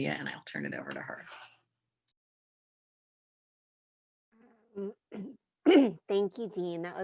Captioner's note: clears throat